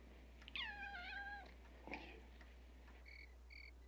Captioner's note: meow